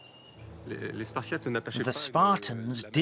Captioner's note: speaking in foreign language